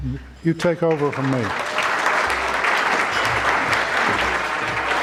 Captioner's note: audience clapping